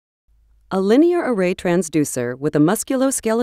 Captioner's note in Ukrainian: Голос за кадром